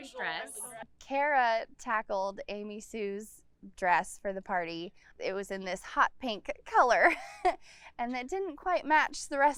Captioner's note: laughs